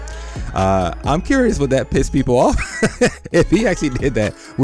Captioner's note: laughs